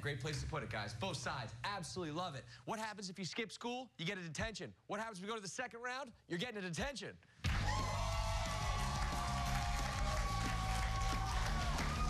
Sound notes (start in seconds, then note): 7.4 cheers and applause